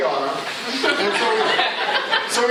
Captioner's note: laughter